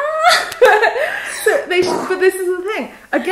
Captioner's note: laughs